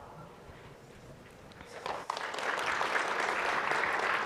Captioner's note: applause